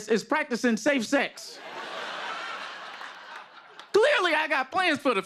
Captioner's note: laughter